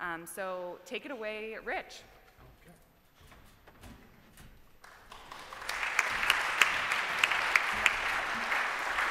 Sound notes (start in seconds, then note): 4.8 applause